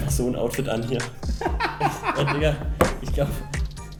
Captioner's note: bursts out laughing